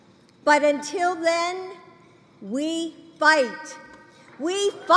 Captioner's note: applause